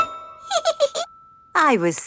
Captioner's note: giggles